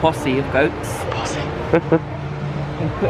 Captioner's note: laughs